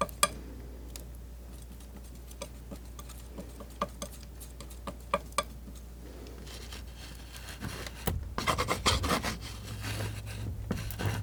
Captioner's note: scratching